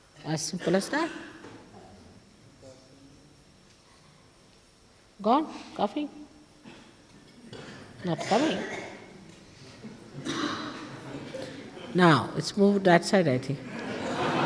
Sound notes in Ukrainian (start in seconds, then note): 7.4 Хтось кашляє з іншого боку!